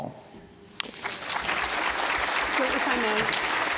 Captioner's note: applause